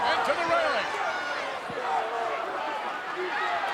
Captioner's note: crowd yelling